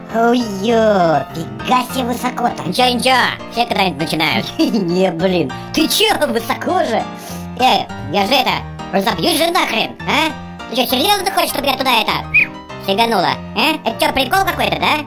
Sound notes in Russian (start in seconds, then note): 12.2 свиснула